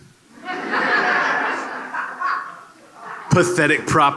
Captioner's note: laughter